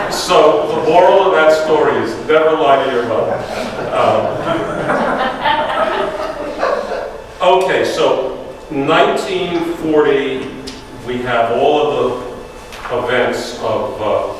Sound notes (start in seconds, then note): 2.9 audience laughs